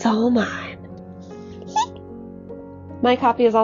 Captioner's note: squirrel squeak